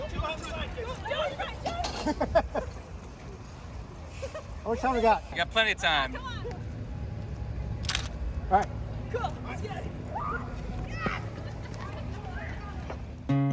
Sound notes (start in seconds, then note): 1.2 laughing; 1.2 laughs; 7.8 camera shutter clicks